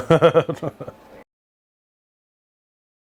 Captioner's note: laughing